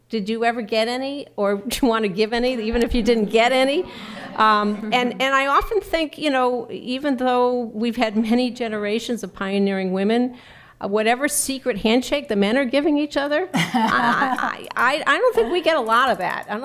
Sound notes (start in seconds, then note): 3.7 laughter